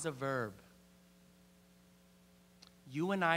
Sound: <i>Brief pause</i>

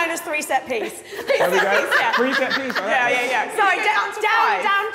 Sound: all laughing

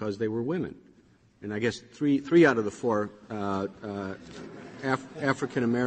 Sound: laughter

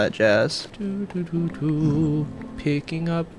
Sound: humming

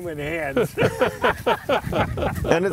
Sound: laughing

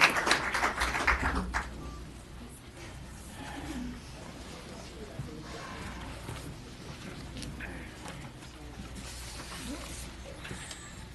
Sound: applause

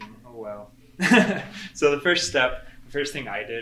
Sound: laughs

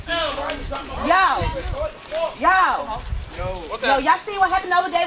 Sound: New York yells

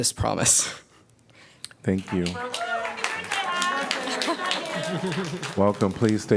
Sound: applause

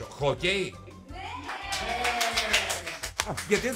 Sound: applause

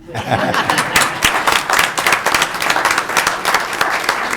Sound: audience applauding

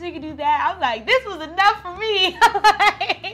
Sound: laughing

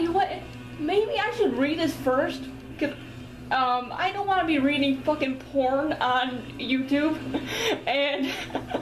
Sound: laughs

